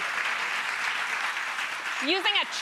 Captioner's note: applause